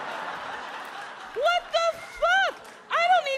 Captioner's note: audience laughs